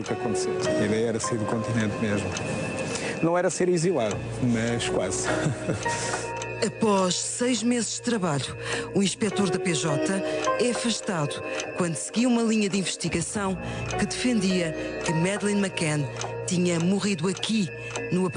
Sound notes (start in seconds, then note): 5.2 laughter